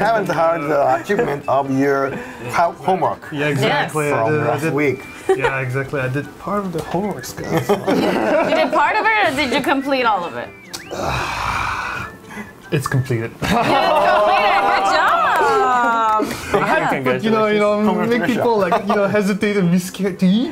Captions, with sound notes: We haven't heard the achievement of your homework from last week. Yeah, exactly. I did part of the homework. You did part of it, or did you complete all of it? *Sigh* It's completed. It's completed? Good job! You know, I made people hesitantly scared.